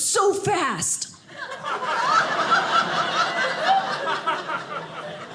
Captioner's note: audience laughing